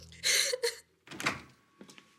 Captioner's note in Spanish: Sollozos